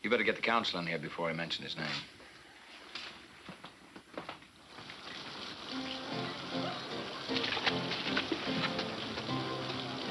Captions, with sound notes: You better get the council in here before I mention his name. (rain pattering) (lively music) (people chattering)